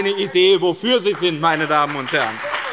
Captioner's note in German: Beifall bei dem BÜNDNIS 90/DIE GRÜNEN und der CDU sowie bei Abgeordneten der SPD